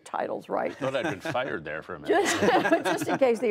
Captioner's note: laughter